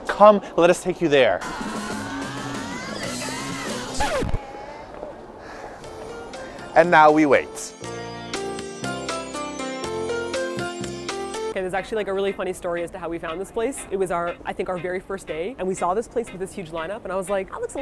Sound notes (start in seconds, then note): 3.2 record scratch; 4.0 sigh